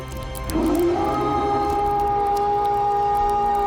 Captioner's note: Eric howls